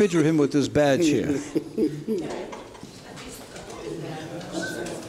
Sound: laughing

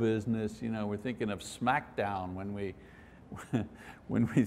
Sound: chuckles

